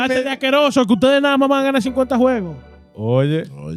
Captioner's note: speaking In Foreign Language